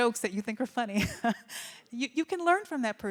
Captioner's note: laughs